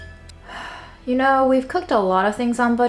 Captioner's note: plate clangs; sighs